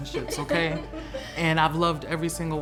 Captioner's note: laugh